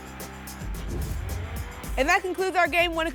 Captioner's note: whoosh